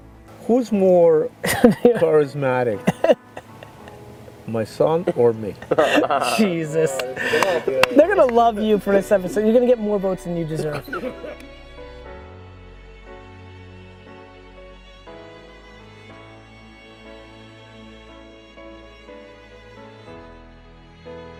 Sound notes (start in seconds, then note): 2.8 laughs; 5.0 laughs; 11.7 somber music